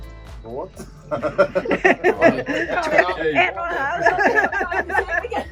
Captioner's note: laughter